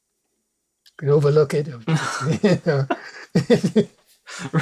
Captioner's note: laughter